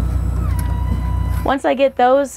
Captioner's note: gurney loading